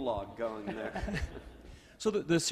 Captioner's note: laughs